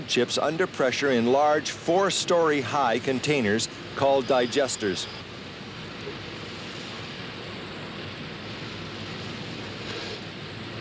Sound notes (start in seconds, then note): 4.0 machinery running